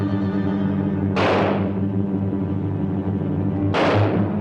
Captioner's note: gun firing